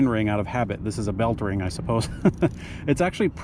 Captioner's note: chuckles